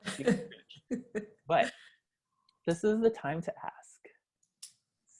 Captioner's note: laugh